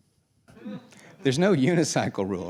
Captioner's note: laughing